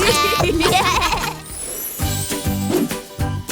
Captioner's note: transition tones